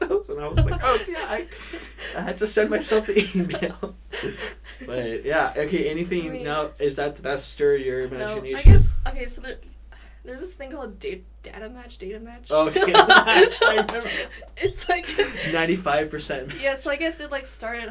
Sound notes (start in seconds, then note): 4.2 both laughing; 12.8 laughs